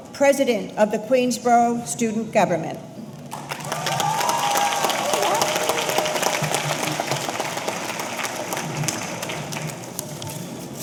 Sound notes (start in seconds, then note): 3.3 audience applauding; 3.4 audience cheering